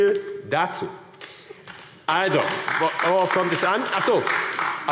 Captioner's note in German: Beifall AfD